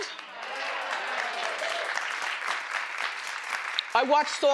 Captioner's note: crowd applauding